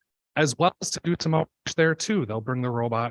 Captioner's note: audio cutting out